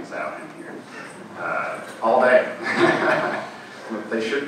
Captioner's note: laughing